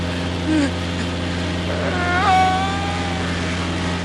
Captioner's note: plane engine whirs; man screams out